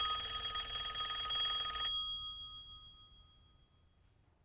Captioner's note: rings